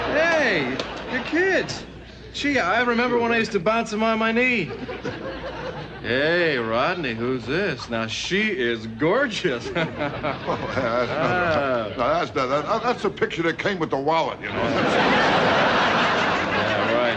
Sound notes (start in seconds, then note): 0.0 audience laughing; 4.6 laughing; 9.5 laughing; 14.4 audience laughing